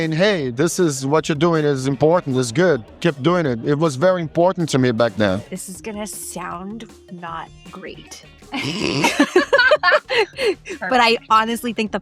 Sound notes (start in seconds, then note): 8.5 all laughing